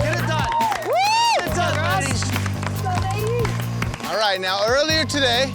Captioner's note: crowd cheering